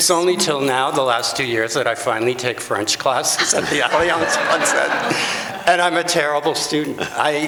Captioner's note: laughter